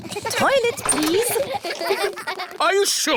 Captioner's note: kids giggling